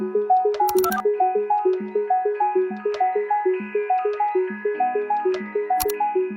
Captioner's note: mechanism clicking; mechanism beeping